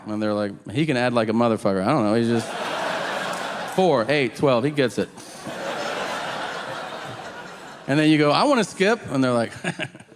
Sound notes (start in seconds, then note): 5.5 audience laughing